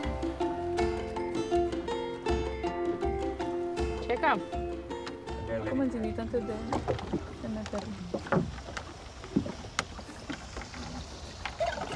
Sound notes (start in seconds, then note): 0.0 bright lively instrumental; 4.1 speaking in foreign language